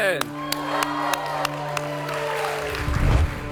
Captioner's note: applause